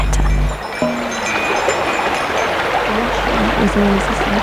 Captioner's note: jingling, popping, running water